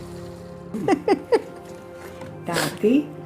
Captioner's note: laughing